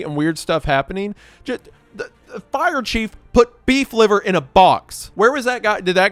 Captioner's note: stammers